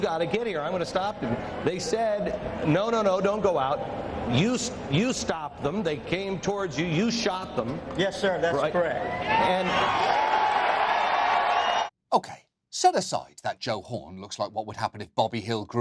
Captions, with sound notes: You gotta get here, I'm gonna stop them. They said no, no, no, don't go out. You-- you stopped them. They came towards you. -You shot them, right? -Yes, sir. That's correct. (CHEERING) Okay. Set aside that Joe Horn looks like what would happen